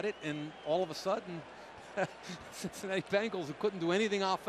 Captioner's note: chuckles